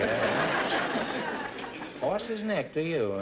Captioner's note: audience laughter